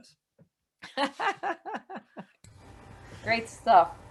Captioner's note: laughs